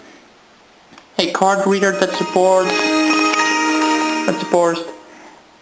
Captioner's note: Windows XP startup chime